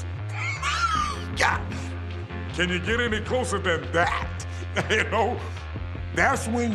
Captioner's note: laugh